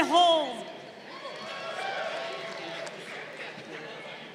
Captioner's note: crowd cheering